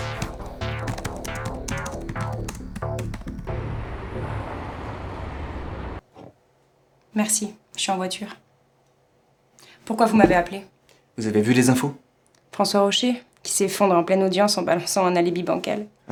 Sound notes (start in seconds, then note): 0.0 keyboard clicks; 3.8 city sounds